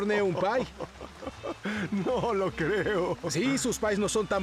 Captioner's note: laughs